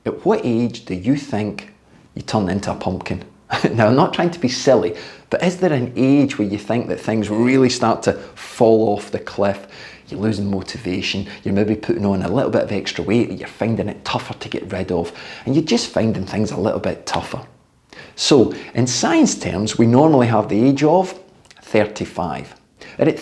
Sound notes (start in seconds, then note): 3.5 chuckles